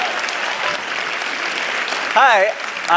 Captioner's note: applause